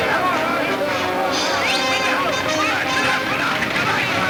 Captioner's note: yelling in Spanish